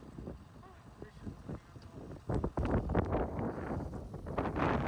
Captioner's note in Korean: 바람소리 주의